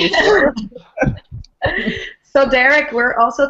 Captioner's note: group laughing